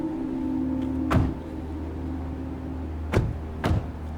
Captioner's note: doors thuds